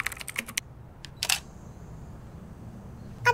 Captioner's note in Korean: 타자 소리; 카메라 셔터음